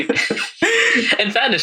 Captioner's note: laughing